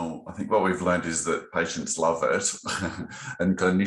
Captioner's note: laughs